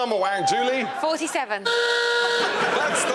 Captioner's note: hooter blares